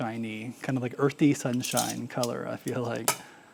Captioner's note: tongs clattering